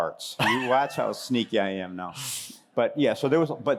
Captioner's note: laughter